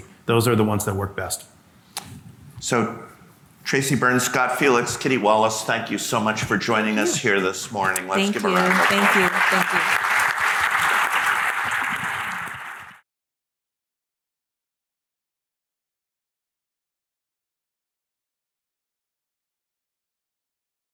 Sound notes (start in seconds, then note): 10.3 audience clapping